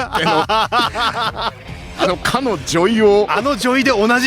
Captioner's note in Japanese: 笑い